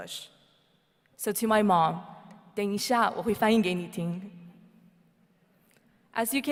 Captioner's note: speaks in foreign language